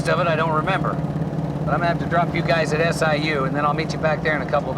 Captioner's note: none